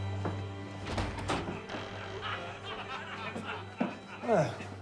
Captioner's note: group laughing